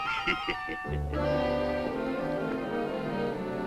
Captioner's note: chuckles